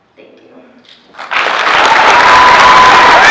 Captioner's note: applause